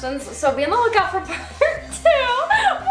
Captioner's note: laughs